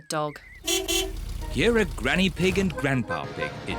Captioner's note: horn beeps